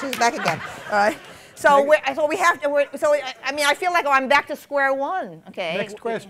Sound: laughter

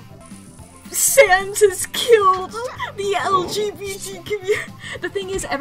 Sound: through laughter

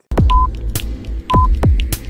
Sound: clock ticking

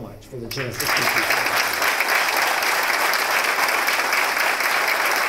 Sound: applause

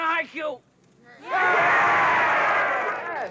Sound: speaking Japanese; all cheering

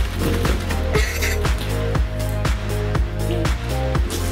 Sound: laughing

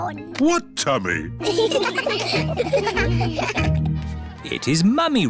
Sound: laughter

